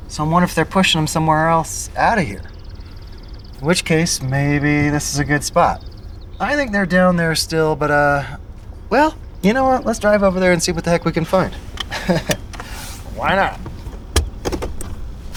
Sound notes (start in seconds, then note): 12.9 laugh